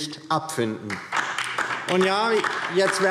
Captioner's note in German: Beifall DIE LINKE